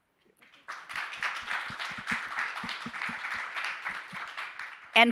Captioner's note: audience applauding